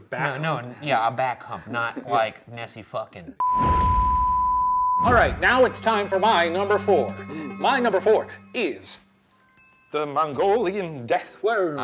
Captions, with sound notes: - No, no, yeah, a back hump. Not like Nessie fucking. (test patter tone beeping) - All right, now it's time for my number four. My number four is the Mongolian death worm.